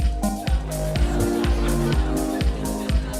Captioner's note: laughter